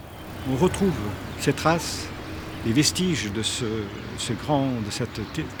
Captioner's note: speaking in French